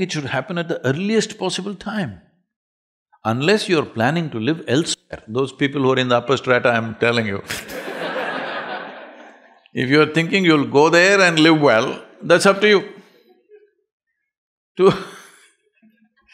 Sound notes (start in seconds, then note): 7.5 laughter; 14.3 laughs